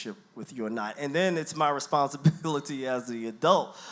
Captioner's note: laughs